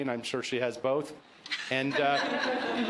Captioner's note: laughter